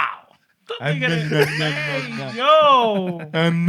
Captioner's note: non-english Speech